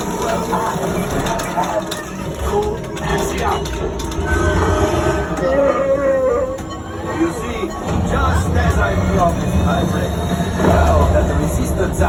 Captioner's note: Chewbacca roars